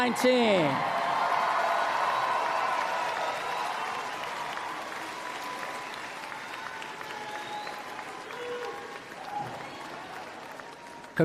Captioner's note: applause